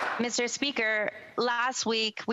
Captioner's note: some Applause